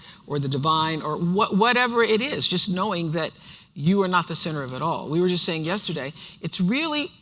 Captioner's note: none